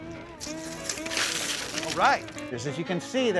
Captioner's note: splashing sound